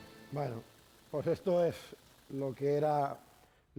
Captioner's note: speaking spanish